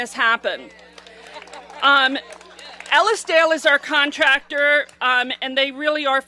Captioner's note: applause